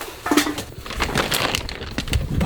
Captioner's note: rustling, crackling